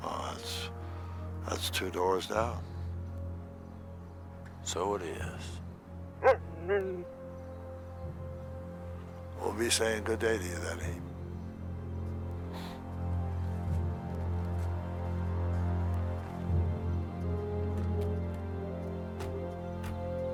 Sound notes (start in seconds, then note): 6.2 Buck barks; 6.2 growls; 12.0 tense music